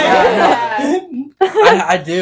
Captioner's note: laughing